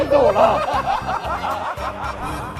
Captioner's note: hahahaha